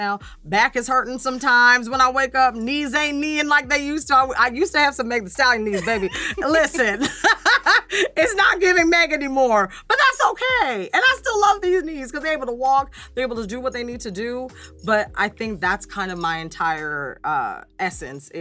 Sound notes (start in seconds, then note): 5.4 laughs